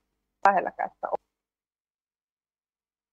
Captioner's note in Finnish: Ääni katkeaa täysin